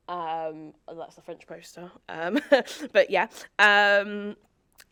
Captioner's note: chuckles